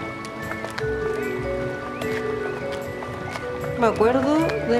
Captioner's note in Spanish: Cantos de aves